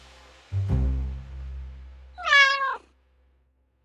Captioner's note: the cat is purring